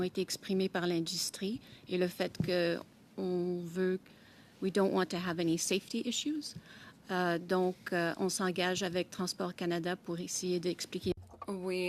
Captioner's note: speaking French